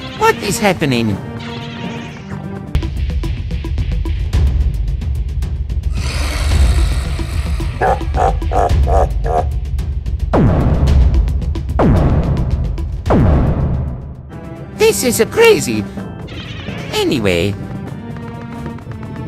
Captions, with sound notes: What is happening? (Bowser laugh) This is crazy! Anyway...